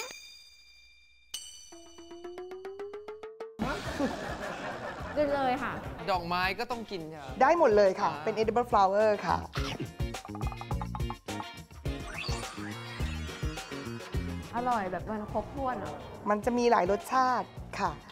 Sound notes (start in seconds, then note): 3.6 laugh